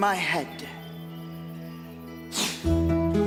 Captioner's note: blows